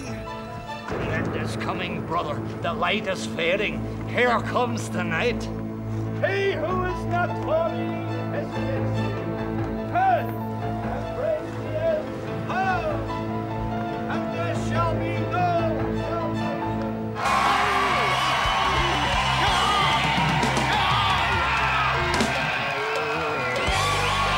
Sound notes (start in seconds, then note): 9.4 tense orchestral music; 17.1 audience cheering